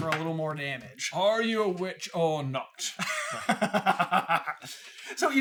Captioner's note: accented; laughter